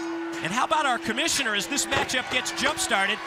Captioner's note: bell ringing